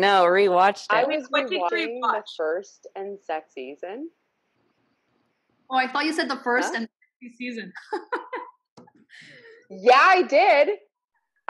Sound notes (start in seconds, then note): 7.4 voice cuts out; 7.8 laughs